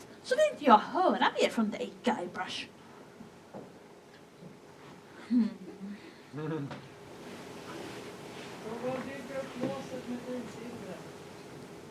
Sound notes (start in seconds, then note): 5.8 laughter